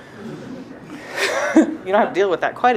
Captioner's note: laughter